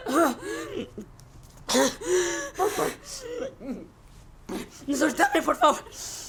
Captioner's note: heavy breathing